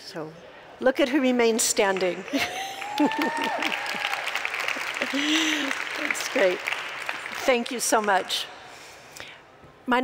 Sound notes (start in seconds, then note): 1.9 applause; 2.4 cheers